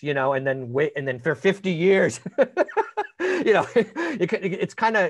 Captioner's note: laughing